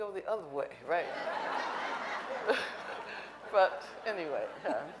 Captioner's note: audience laughing